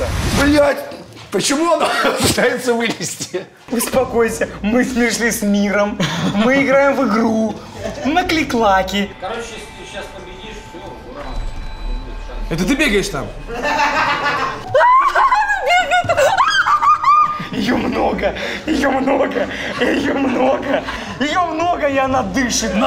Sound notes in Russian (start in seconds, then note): 13.5 смех; 16.1 крик